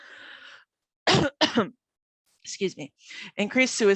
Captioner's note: coughing